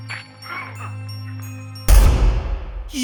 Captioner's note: video game sounds; jumpscare noise